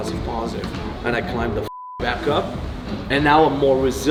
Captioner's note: beep